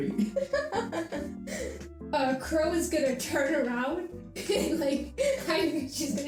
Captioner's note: laughs